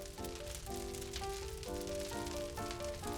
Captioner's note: crackling of the fire